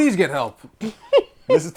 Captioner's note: laughter